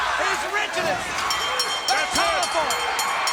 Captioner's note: bell rings